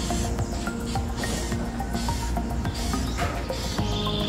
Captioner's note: the smaller bird vocalizing